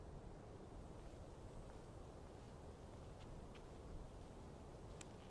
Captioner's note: footsteps shuffling